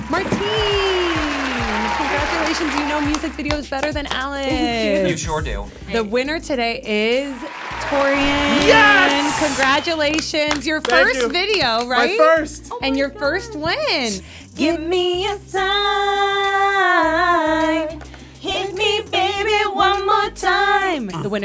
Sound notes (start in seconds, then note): 0.0 audience cheering